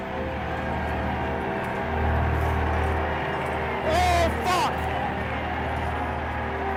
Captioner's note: crowd sounds